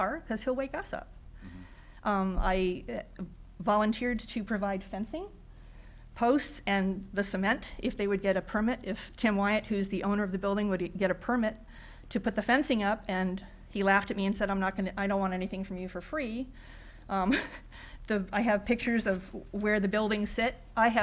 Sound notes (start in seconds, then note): 17.3 woman chuckles